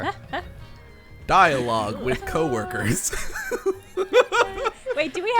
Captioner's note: laughs